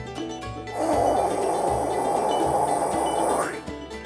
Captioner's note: fire roars